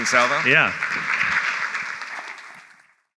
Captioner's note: applause